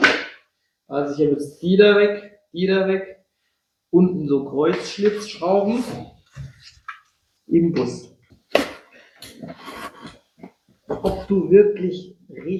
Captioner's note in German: räuspern